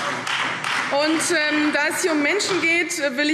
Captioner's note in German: Beifall Freie Demokraten